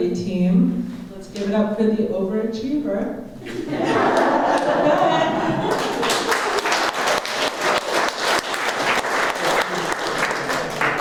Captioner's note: laughter; applause